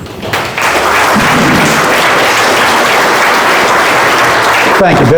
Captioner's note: audience applauds